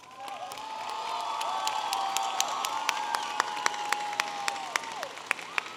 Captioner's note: audience applauding and cheering